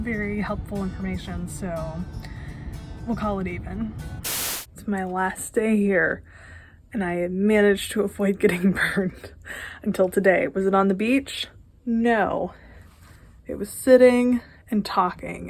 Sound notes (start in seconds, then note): 4.2 static